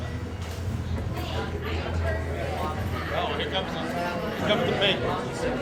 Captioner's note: crowd talking